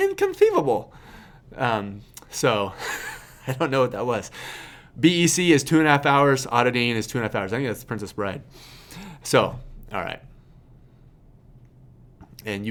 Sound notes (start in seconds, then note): 2.2 laughs